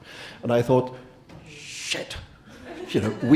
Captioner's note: audience laughing